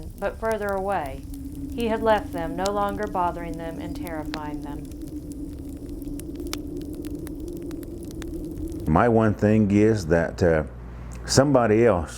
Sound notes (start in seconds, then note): 0.0 speaks in foreign language; 5.5 wind rushing and fire crackling